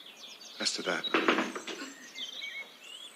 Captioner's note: knocking